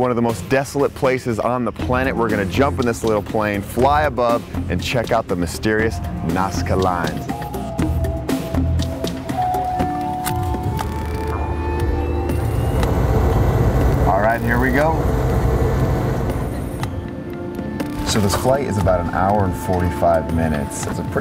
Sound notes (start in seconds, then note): 11.9 airplane engine revving up